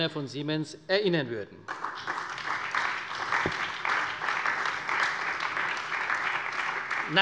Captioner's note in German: Beifall bei der CDU, der SPD, dem BÜNDNIS 90/DIE GRÜNEN und der LINKEN